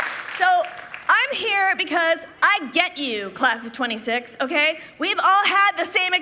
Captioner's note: applause